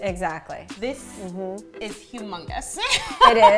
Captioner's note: laughing